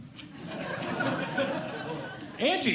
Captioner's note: audience Laughing